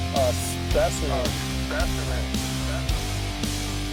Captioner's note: voiceover